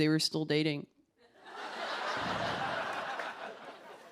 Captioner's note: laughter